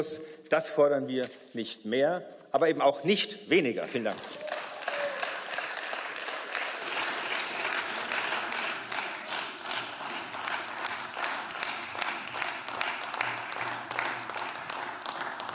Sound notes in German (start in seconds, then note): 4.0 Beifall